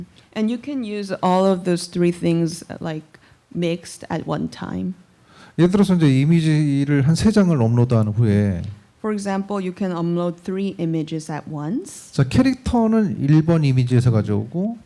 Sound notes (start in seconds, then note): 5.3 speaking korean; 12.3 speaking korean